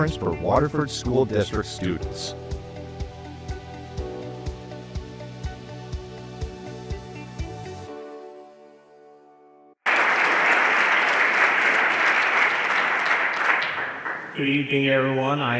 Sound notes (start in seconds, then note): 3.2 bright music; 9.8 everyone applauding